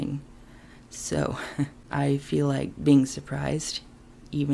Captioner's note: chuckle